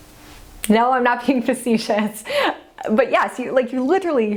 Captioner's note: laughs